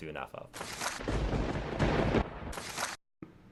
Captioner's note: thunder crackles